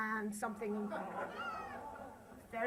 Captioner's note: laughter